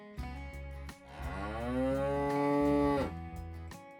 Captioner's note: cow Moo